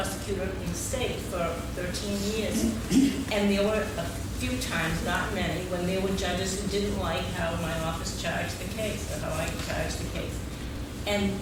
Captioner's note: laughing